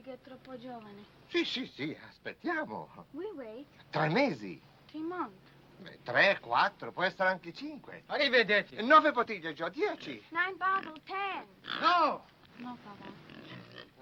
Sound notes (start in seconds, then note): 0.1 speaking foreign language